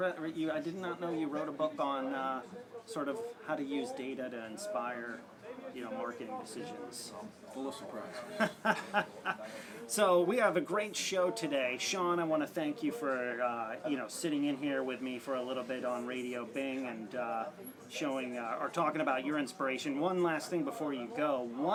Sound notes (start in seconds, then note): 8.1 laugh